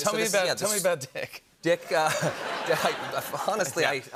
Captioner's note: laughter